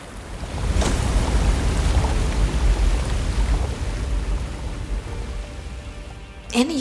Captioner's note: water flowing; water crashing; uplifting music